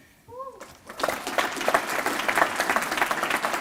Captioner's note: applause